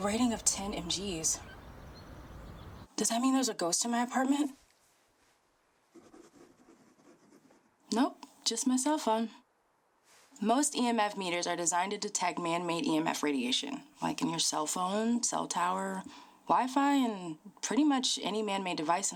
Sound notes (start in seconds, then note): 5.9 pen scratching